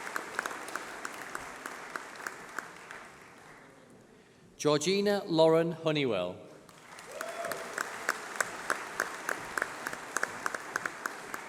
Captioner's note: applause